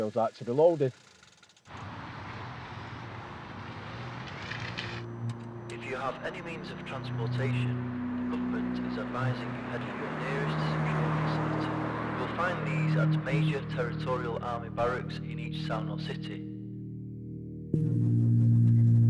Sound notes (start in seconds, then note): 3.5 car rustling; 6.9 radio Voice